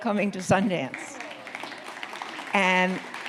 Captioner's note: audience clapping